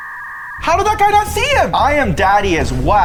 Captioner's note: dial up signal droning